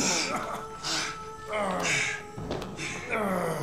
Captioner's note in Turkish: İnleme sesi